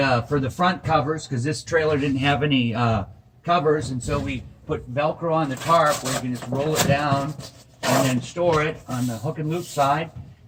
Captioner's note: velcro